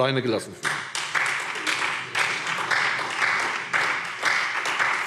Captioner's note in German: Beifall SPD